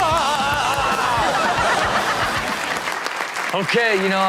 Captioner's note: everyone laughs